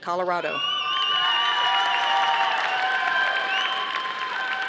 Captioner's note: audience applauding